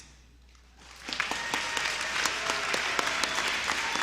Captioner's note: applause